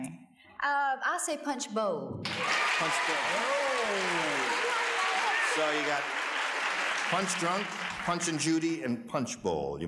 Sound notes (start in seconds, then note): 2.2 cheers and applause